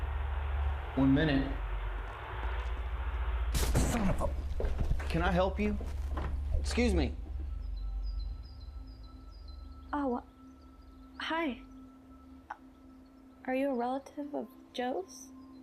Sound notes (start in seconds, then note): 3.5 foot thudding; 8.1 birds chirping